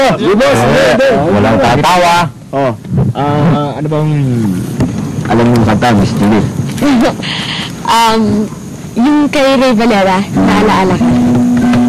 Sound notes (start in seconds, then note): 6.7 chuckles